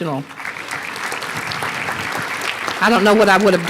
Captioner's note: applause